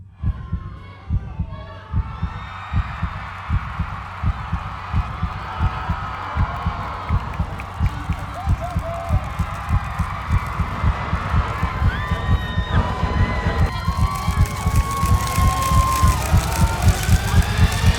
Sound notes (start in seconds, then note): 0.1 heartbeat accelerates - crowds cheering fade in; 3.5 heartbeat continues to intensify